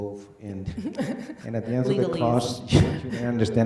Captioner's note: laughs